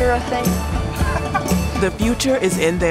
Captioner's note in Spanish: Padre riendo